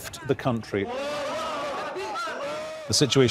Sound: yelling in arabic

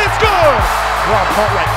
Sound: cheering

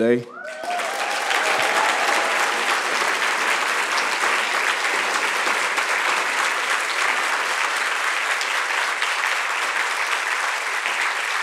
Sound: cheers and applause

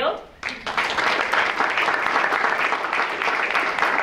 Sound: audience clapping

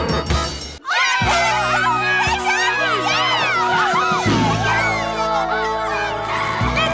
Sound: cheering sounds

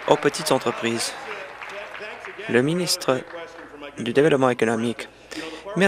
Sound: applause

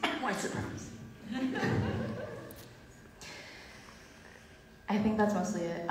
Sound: audience laughs

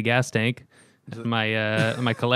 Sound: laughter

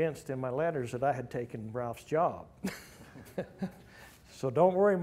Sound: laughs

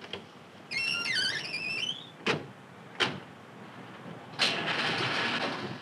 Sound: car doors squeaking; engine cranking

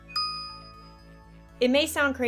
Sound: pause

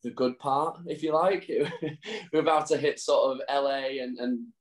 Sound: chuckles

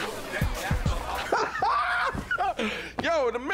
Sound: laughing lightly

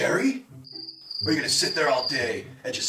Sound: crickets Chirping

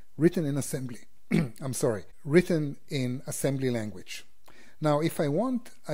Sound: cough

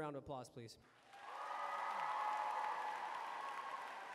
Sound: applause

